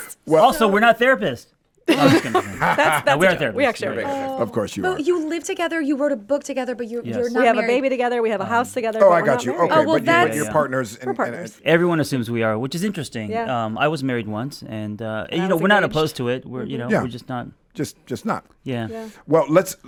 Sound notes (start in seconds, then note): 1.9 laughing